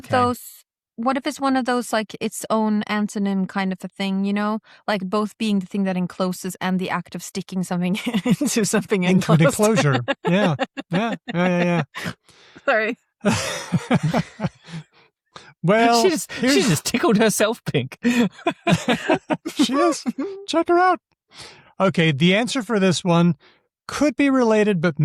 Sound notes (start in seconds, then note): 8.1 laughs; 13.2 laughter, snort; 15.7 laughs; 19.6 laughter